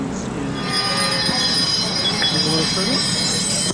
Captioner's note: bike bells being played